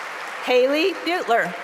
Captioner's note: cheering; applause